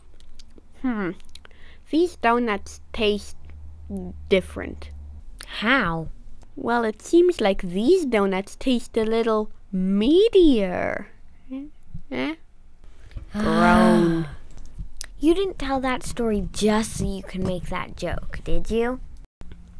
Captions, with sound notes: Hmm... these donuts taste... different. How? Well, it seems like THESE donuts taste a little... MEATIER! Eh? (groan) You didn't tell that story just so you could make that joke, did you?